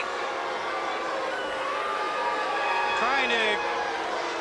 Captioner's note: crowd boos